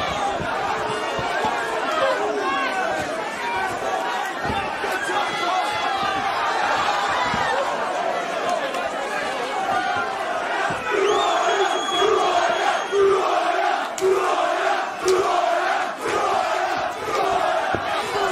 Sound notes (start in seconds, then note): 11.2 crowd Chanting; 18.1 crowd shouting